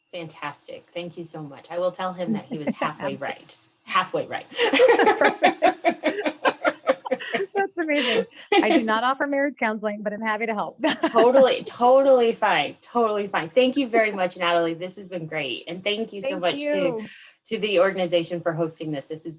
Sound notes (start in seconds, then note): 4.6 all laugh